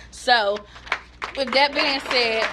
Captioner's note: applause